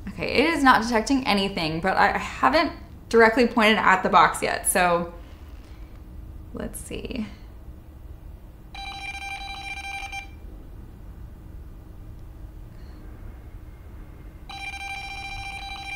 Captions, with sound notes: It is not detecting anything, but I haven't directly pointed at the box yet. So let's see. (machine beeping)